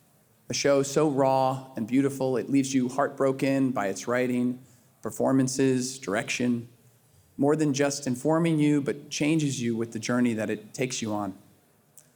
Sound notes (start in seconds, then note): none